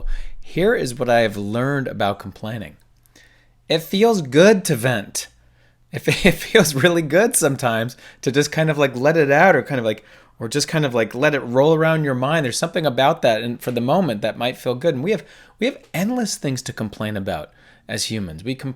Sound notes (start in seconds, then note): 6.0 laughing